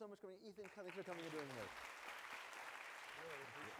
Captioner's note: clapping